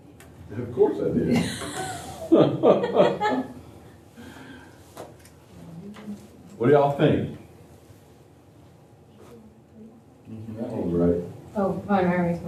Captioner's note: laughter